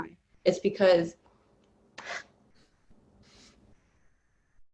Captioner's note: sobbing